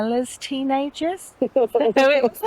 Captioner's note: laughter